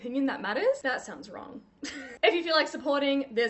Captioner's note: laughs